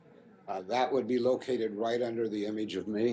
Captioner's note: voiceover